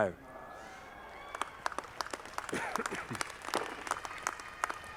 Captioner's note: audience clapping